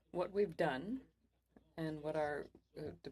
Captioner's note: speaking French